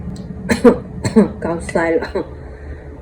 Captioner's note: coff